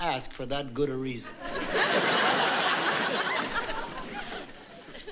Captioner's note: audience laughing